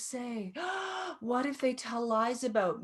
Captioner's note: gasping